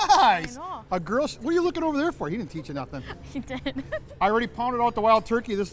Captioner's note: laughing